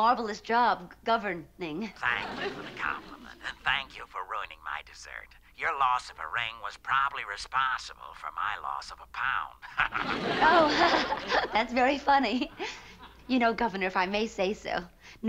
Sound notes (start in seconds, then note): 1.9 on phone; 9.6 laughs